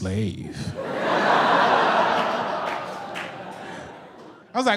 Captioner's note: audience laughs